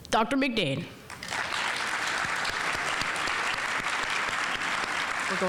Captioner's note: audience applauding